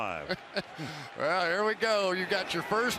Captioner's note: laughs